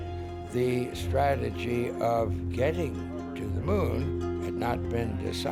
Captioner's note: none